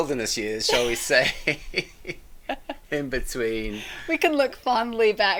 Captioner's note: both laughing